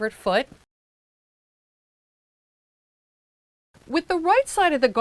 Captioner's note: no Sound Present